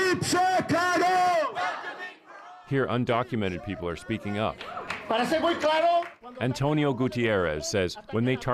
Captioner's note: chanting